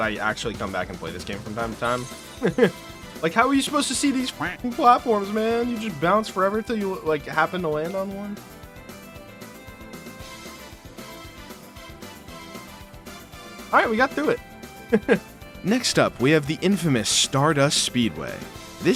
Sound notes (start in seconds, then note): 2.4 laughs; 14.8 laughs